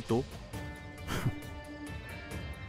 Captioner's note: Keshav laughs